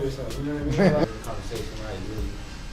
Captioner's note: interviewer laughs